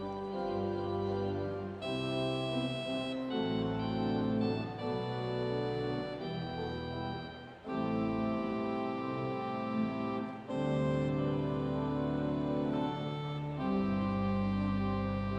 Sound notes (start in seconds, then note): none